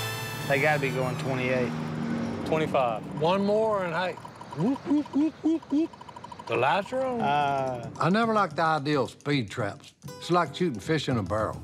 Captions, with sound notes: They gotta be goin' 28. -Twenty-five. -One more and, hey... [imitating siren] -The lights are on. -Ahh... I never liked the idea of speed traps. It's like shooting fish in a barrel.